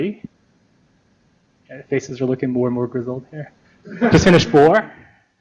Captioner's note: laughter